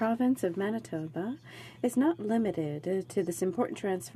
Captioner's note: speaking in french